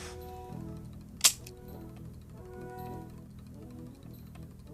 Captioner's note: light whining; loud click